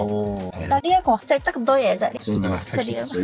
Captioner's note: laughs